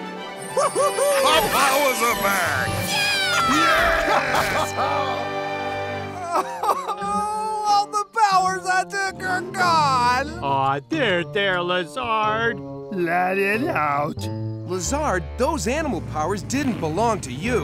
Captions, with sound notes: -Woo hoo hoo! -My powers are back! [cheering] [sobbing] All the powers I took are gone! Aww, there there Lazard. Let it out. Lazard, those animal powers didn't belong to you.